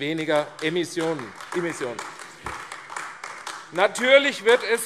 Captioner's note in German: Beifall AfD